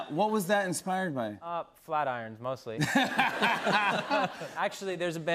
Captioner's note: laughter